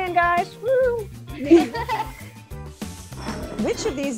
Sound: laughter

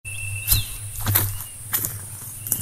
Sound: footsteps

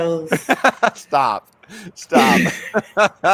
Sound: laughing

